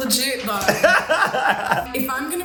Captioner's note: laughing